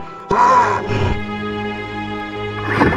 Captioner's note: roar